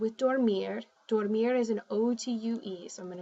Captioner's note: spanish